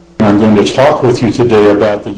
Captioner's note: voiceover